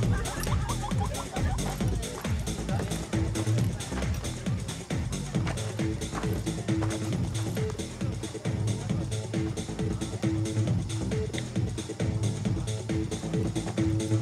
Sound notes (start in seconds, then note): 1.2 laughing; 6.5 gravel crunching